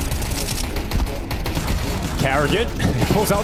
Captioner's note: gunshots ringing out